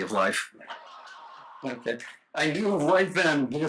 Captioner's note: laughter